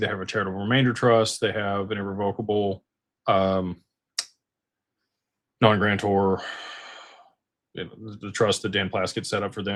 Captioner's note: sighs